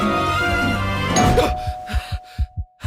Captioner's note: gasps; doorbell rings; panting